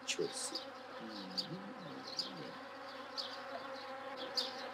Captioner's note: buzz